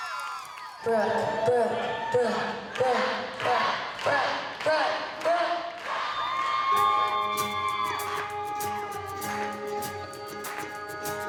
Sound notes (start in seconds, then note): 0.0 audience cheering; 5.7 cheering; 6.7 band strikes up; 6.7 mellow music playing